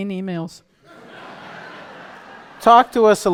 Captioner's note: laughter